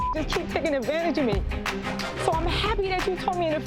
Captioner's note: beep